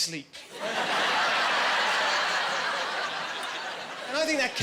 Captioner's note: laughing